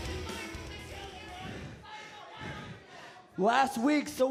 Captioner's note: crown chatter